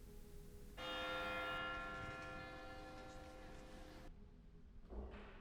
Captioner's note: church bells tolling